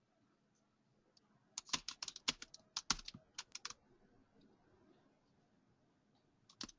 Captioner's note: typing sound